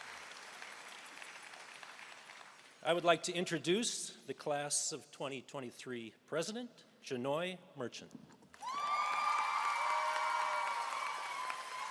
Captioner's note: applause